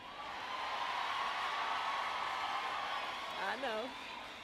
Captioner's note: applause